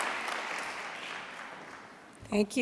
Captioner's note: applause